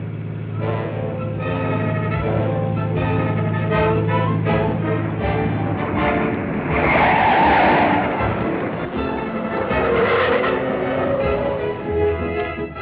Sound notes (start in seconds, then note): 0.2 dramatic music; 6.1 tires screeching